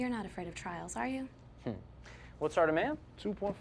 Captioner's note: scoffs